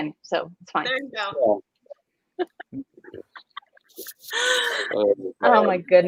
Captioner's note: laughing